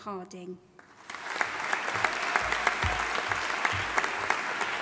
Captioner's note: audience applauding